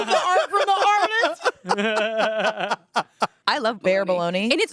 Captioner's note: everyone laughs